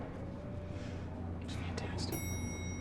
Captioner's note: quietly